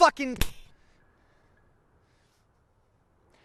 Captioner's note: hand slaps